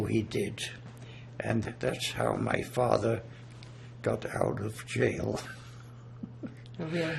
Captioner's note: laughing